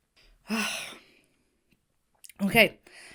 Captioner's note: Hana sighs